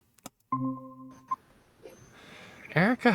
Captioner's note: phone beeps